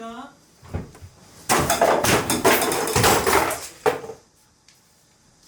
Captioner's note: crash / Clash